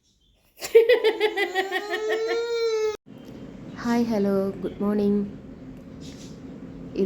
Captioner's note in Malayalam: പൊട്ടിച്ചിരി